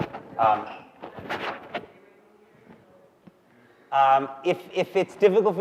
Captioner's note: audience member speaking softly